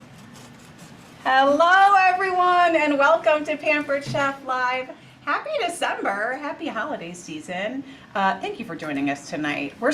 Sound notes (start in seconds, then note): 0.0 lemon scratches